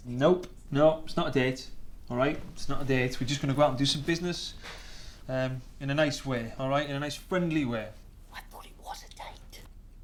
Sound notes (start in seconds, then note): none